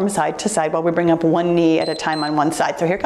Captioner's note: timer beeps